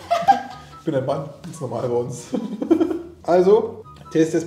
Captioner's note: both laughing; laughing